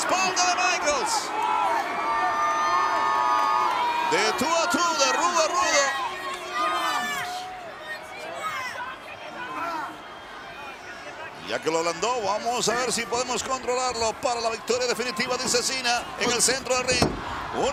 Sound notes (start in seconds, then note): 6.1 applause